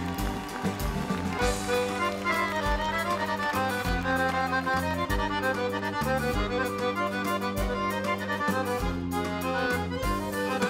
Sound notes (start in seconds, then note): 0.0 audience cheering; 7.2 folk music band plays